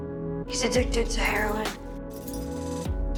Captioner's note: voiceover